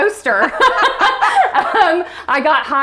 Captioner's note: laughs